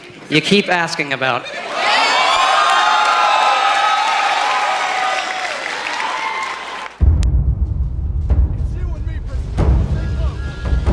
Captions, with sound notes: ...you keep asking about. *crowd excited* *crowd clapping*